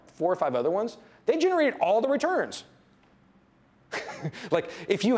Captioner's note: laughs